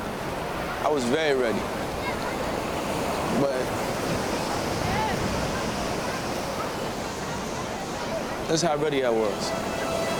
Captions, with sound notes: I was very ready. (waves crushing) This is how ready how was.